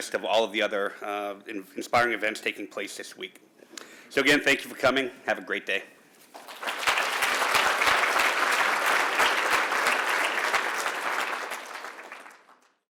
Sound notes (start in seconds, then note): 6.3 applause